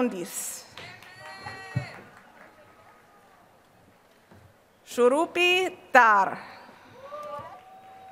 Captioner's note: applause